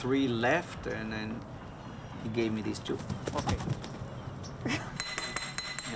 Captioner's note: laughs